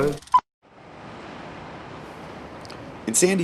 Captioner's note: waves crashing